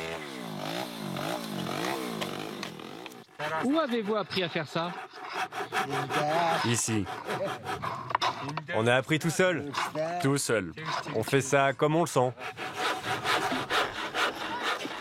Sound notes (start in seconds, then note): 3.2 foreign spoken audio